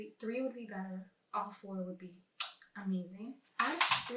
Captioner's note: chef’s kiss